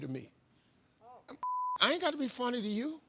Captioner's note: beep